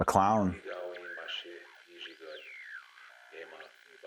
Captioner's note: whirring noise